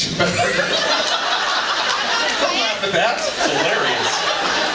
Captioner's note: laughs